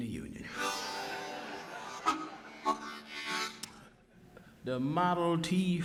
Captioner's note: audience laughing